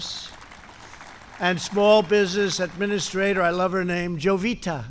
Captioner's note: applause